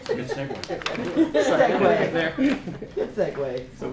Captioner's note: laughter